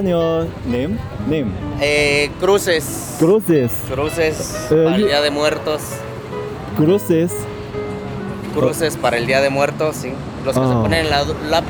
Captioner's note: Spanish